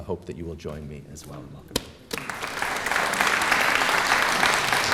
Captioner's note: applause